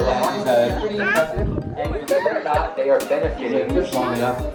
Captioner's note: speaks faintly